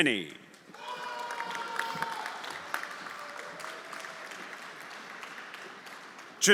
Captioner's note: everyone applauding and cheering